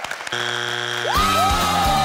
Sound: cheers; buzzes

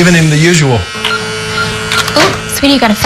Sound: beeping

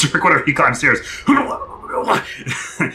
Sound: melodramatic exertion

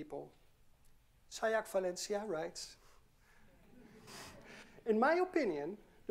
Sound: audience chuckling

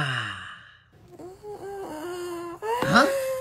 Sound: Tails and Classic Sonic screaming

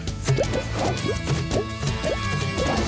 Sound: none

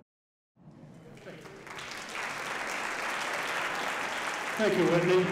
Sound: audience applauding

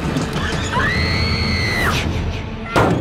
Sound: screaming

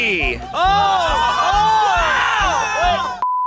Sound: clamoring

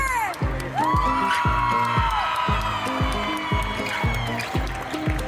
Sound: loud oooooing; applause; ♫ Midtempo guitar music ♫

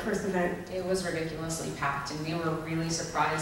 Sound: voiceover

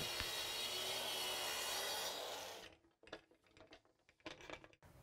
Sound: machine whirring

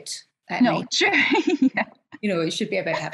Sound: laughs

